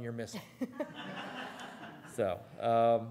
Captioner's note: laughing